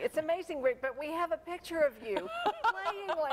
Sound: laughter

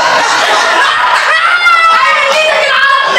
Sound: jeering laughter

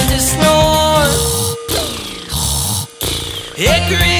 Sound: snoring

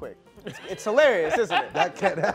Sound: laughing

